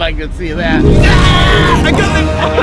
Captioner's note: shrieks; chuckles